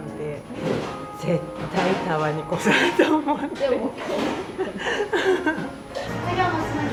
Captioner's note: laughs